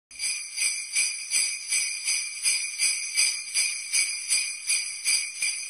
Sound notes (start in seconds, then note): 0.1 sleigh bells ring